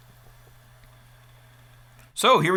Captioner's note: laptop buzzing loudly